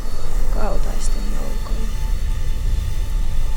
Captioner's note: speaks in Muinein language